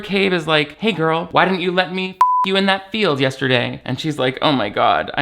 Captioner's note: beep